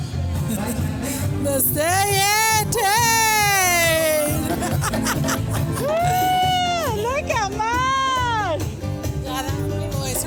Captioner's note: speaking spanish; laughs